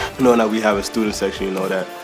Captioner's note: voiceover